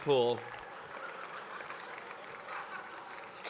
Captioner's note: laughter